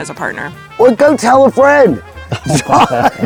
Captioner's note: both laughing